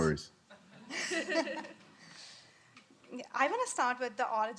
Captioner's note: chuckling